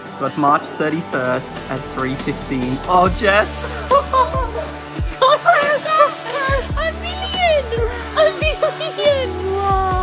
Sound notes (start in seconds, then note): 3.5 laughs loudly